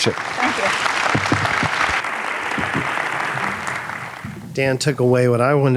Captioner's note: audience applauding